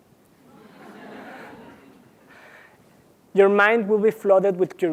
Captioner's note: laugh